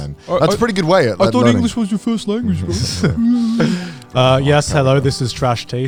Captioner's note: chuckles